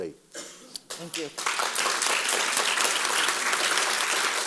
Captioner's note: audience applause